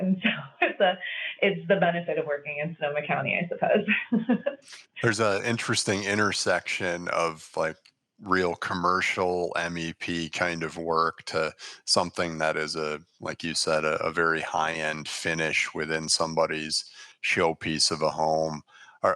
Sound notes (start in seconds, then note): 4.9 laughing